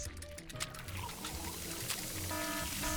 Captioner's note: machine working; alarm sounding